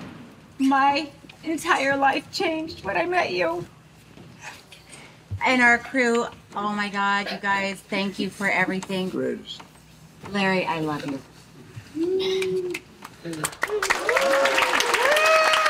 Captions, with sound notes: (VOICE WAVERS) ...my entire life changed when I met you. (SOBS) And our crew, oh my God, you guys, thank you for everything. The greatest. Larry, I love you. (CHEERING AND APPLAUSE)